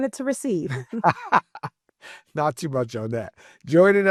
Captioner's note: laughs